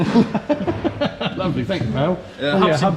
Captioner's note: laughing